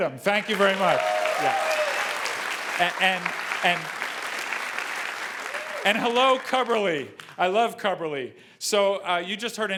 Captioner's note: applause